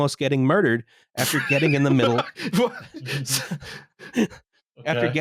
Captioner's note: laughs